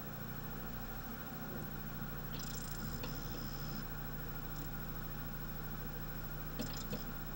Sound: disc is now at speed, laser tracking sounds

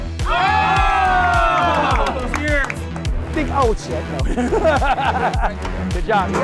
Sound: cheers

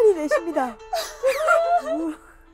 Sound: breathes out

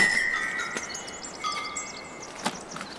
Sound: birds singing

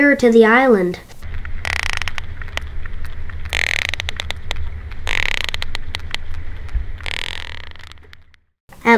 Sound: sounds of a whale

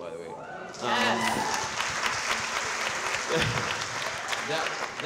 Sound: audience cheering

